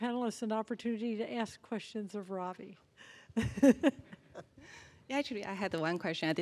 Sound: laughing

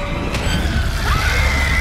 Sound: screams; ghost screaming

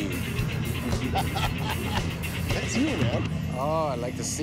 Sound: laughs

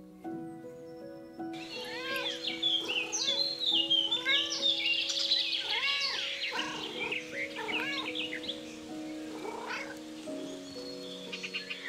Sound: birds sing, cats trill and meow near Milo; cows mooing in the distance, birds singing

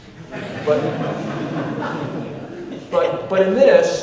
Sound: audience laughing

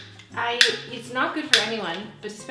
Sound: lighter sounds

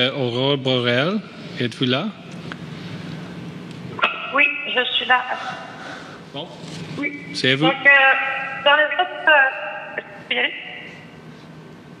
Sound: speaking French

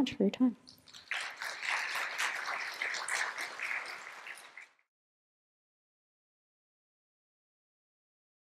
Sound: applause

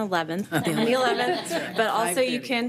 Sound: all chuckle

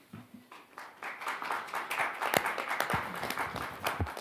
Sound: audience clapping

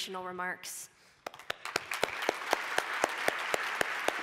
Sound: applause

